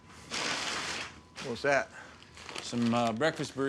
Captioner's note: bag rustles